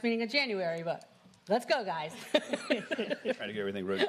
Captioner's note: laughter